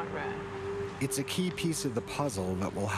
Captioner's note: voiceover